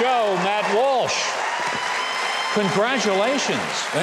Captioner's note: audience cheering